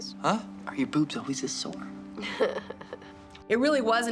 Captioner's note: chuckles